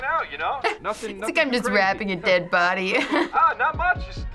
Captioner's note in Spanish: risas